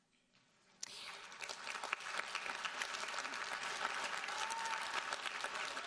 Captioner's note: audience applauding